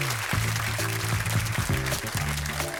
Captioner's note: applause